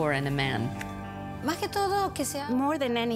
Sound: speaking spanish

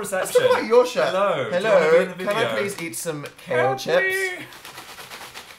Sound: shakes bag

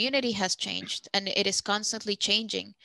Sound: speaking Spanish

